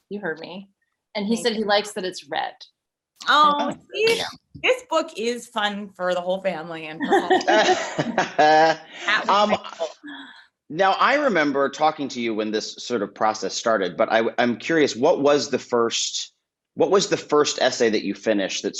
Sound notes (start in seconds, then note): 7.0 all laughing